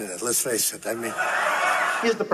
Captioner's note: audience laughing